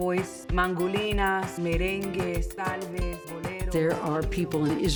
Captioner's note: reader speaking in Spanish